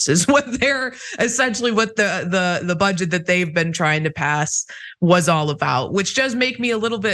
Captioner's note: laugh